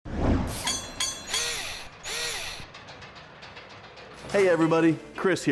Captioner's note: mechanical SFX